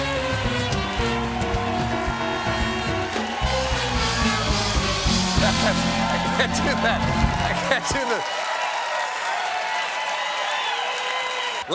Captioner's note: cheers and applause